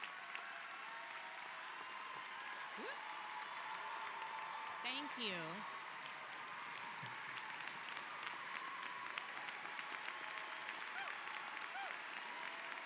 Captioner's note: applause